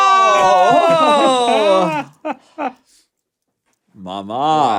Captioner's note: laughs